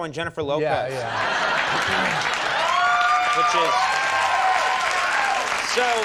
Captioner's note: audience laughing and cheering